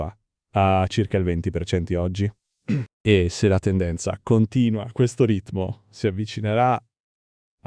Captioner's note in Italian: schiarire la voce